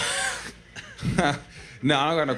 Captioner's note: laughs